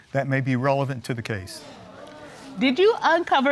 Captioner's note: audience gasping